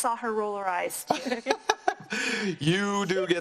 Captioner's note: laughs